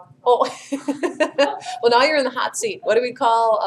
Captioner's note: chuckles